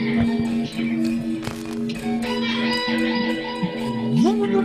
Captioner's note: all chuckling and chattering